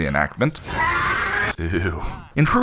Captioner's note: fish monster scream